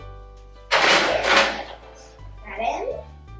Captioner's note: sound of pan sliding onto metal rack